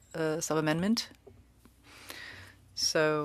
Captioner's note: speaking French